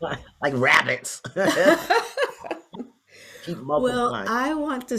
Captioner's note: both laugh